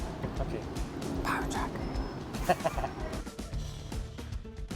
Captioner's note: giggle